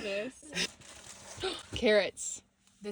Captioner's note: bag rustling